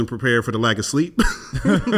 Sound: laughs

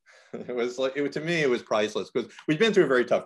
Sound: laughs

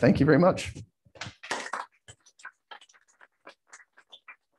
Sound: applause

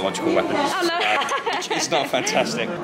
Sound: laughing

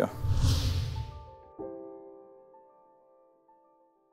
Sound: whooshing noise

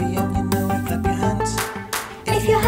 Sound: clapping

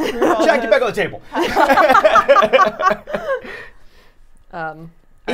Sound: all laughing

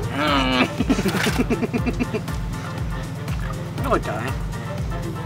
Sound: laughing

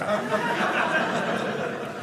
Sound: audience laughing

